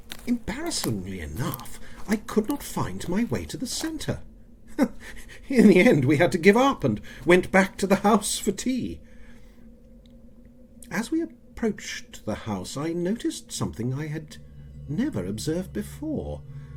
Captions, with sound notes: Embarrassingly enough I could not find my way to the center... [Chuckles] In the end we had to give up and went back to the house for tea. As we approached the house I noticed something I had never observed before...